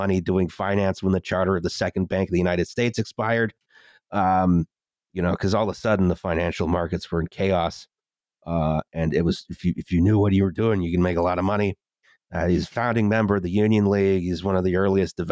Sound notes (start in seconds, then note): none